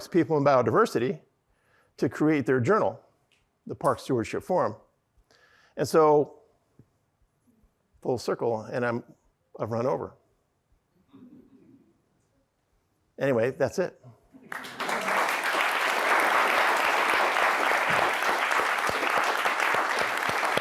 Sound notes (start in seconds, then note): 14.4 audience applauding